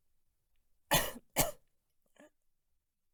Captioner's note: Chaplin coughs